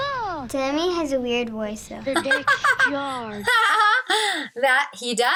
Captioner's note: laughs